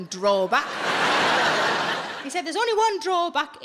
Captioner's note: audience laughs